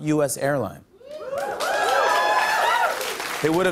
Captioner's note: cheers and applause